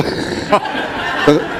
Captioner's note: laughter